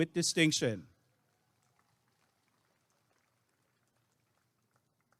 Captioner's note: applause and cheering